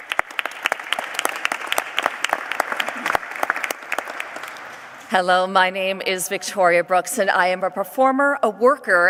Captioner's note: applause